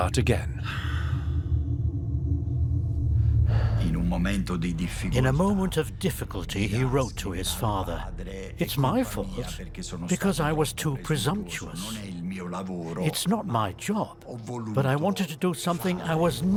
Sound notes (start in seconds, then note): 0.3 music fades out; 3.6 in Italian